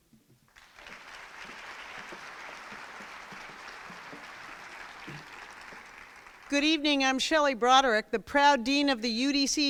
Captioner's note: crowd applauds